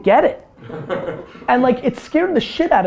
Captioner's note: group laughter